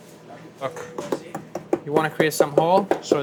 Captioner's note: pizza cutter thudding